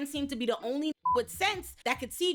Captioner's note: beep